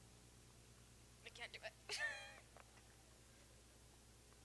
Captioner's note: chuckles